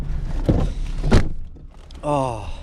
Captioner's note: car door banging